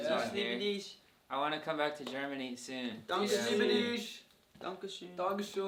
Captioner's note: all imitating German: Dankeschön. Ich liebe dich